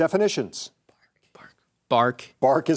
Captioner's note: team whispers